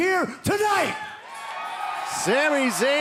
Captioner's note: cheering